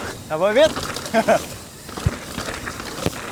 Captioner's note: laughs